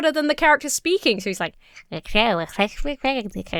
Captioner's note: Emma mumbles